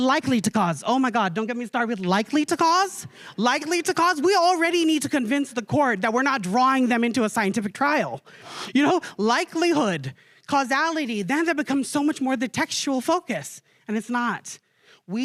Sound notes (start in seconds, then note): none